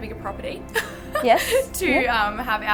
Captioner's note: chuckling